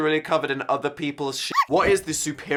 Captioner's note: dog barks